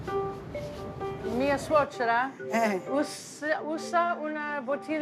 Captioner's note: speaking Italian